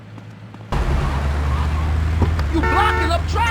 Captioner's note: car engine